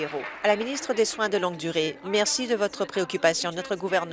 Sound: applause

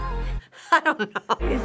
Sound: giggling

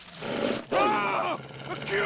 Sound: screams

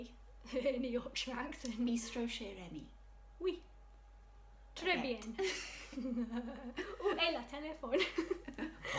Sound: laughs

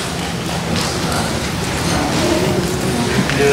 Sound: crowd cheering

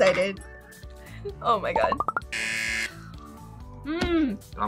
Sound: buzzer

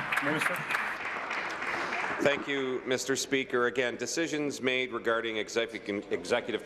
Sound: applause

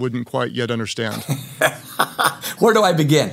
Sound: laughs

